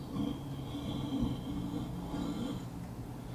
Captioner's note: growling